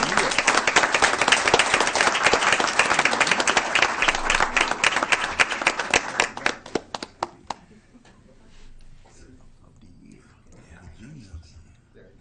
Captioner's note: applause, hand-shaking and photo